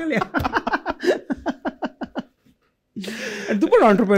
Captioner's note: laughter